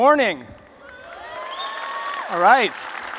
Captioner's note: applause